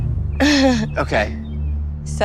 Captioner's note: laughs